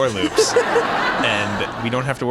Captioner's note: laughing